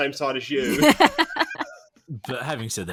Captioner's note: laughs